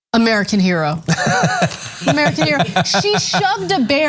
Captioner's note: laugh